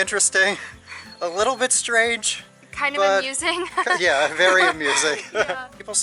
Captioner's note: laughter